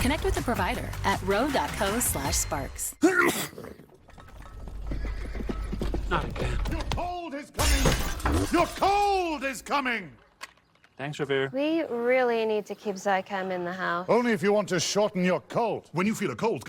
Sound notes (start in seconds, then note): 3.0 sneeze; 5.6 hooves approaching